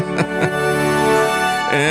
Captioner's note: laugh